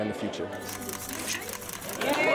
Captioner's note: camera shutter clicking; cheers and applause